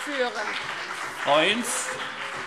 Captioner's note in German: Beifall BÜNDNIS 90/DIE GRÜNEN und vereinzelt CDU